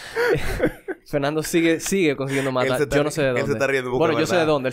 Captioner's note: laughs